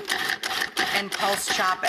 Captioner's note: grinding